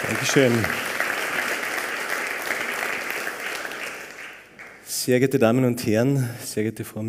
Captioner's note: applause